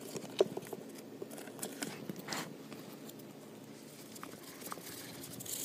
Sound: skittering noises of Q-Tip's nails on the cardboard

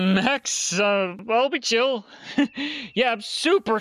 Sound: nervous flustered laugh again; fake confident laugh

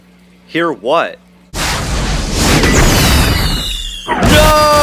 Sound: rocket Launches

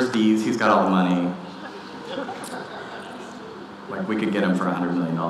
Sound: audience laughing

